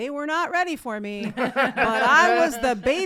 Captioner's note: laughing